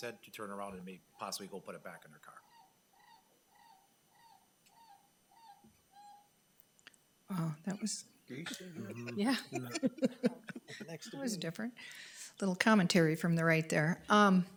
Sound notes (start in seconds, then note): 4.7 chicken clucking on phone; 8.4 chuckles